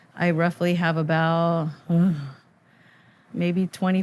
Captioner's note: groans